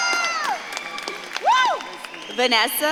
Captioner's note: audience claps and cheers